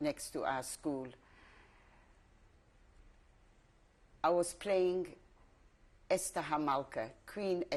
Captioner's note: pauses for 3 seconds